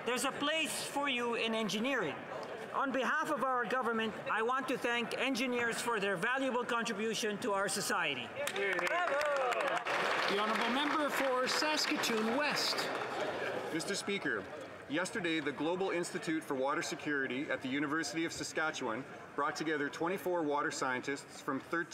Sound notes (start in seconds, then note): 11.3 some Applause